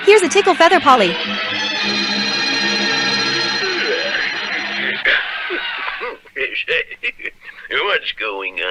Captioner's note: crowd Roars